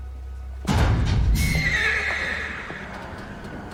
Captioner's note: metal clanks; horse neighs